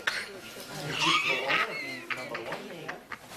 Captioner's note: laughing